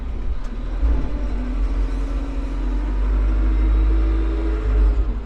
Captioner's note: engine rumbling